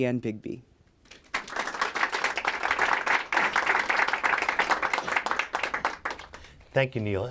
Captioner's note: applause